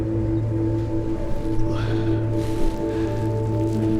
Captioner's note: sighs